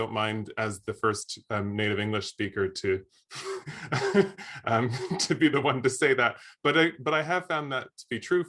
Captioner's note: laughs